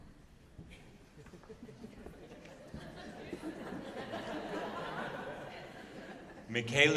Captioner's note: laughter